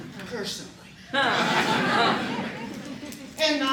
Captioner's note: laughter